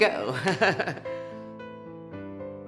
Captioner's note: woman chuckles; soft piano music